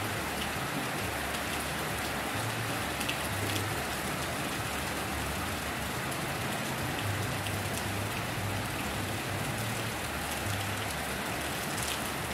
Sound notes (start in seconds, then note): 2.1 rain Sounds